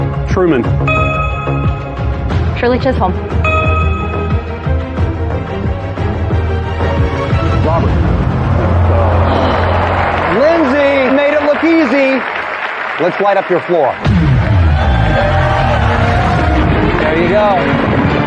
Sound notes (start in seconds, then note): 8.7 audience sighing; 14.0 dramatic music